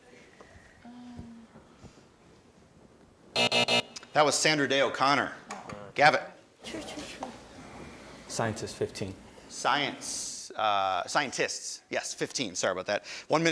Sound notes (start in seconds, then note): 3.3 alarm buzzes